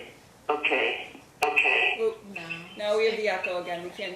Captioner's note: echo occurs again